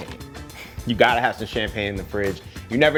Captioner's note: laughs